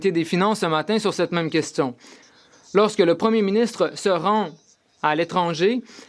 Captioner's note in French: voix de l'interprète